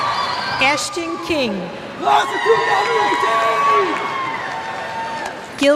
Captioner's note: cheers